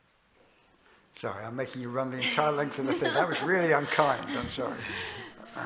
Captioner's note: laughter